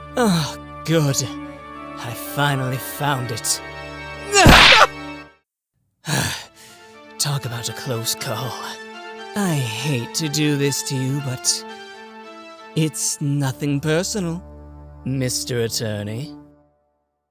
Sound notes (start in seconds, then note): 4.2 Man grunts, Wright shouts!; 6.0 sigh